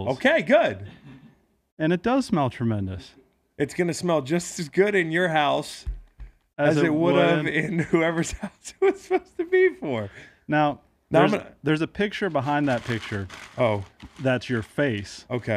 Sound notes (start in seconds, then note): 8.1 laughs